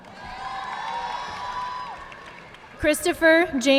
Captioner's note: audience clapping